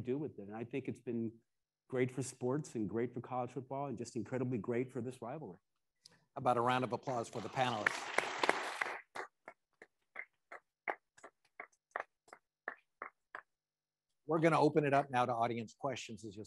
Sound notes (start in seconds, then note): 7.0 attendees applauding